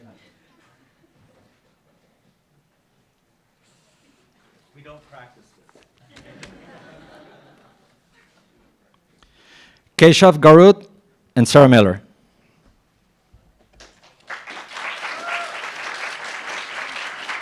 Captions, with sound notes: - We don't practice this. (laughs) - Keshav Garud and Sarah Miller. (applauds)